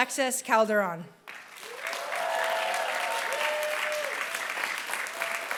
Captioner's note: applause